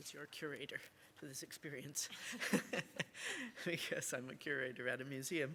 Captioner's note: laughs